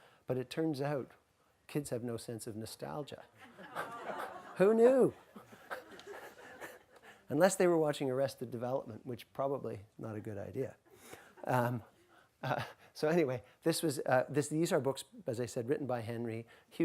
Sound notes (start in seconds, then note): 3.4 audience laughs